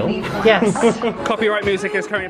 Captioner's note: laughing